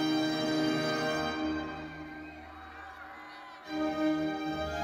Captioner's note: audience cheering; majestic solemn music continues